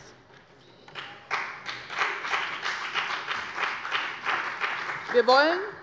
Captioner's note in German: Beifall bei dem BÜNDNIS 90/DIE GRÜNEN und der CDU